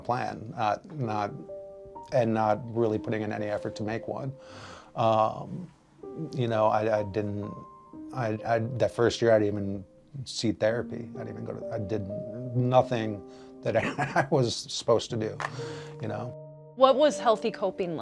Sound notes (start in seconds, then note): 13.8 laughing